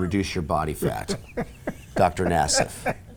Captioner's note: Paul laughs